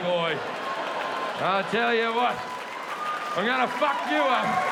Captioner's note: audience applauding